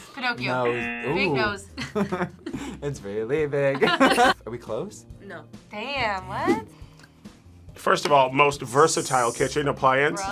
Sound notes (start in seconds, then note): 0.6 buzzer; 3.7 both laugh